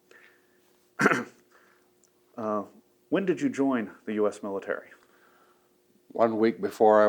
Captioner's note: clears throat